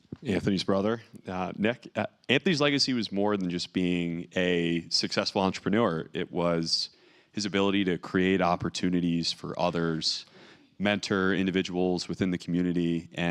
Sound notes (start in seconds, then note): none